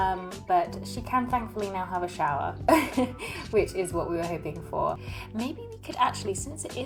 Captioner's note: laughs